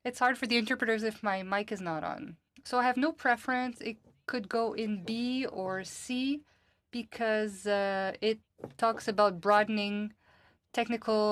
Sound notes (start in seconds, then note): 0.8 speaking FRENCH